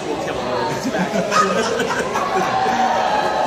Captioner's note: less than sensible chuckle